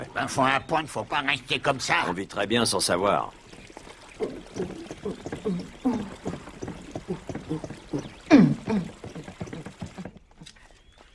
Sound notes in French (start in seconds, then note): 4.2 Elle fredonne